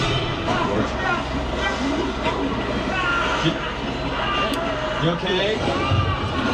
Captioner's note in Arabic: موسيقى حادة; يصرخ